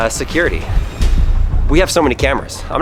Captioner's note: dramatic sound